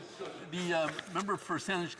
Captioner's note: speaking French